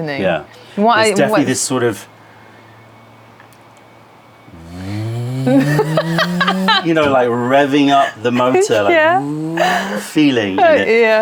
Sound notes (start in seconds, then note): 4.5 motor sound; 5.5 laughter; 8.6 motor sound